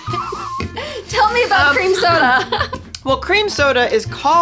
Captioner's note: laughs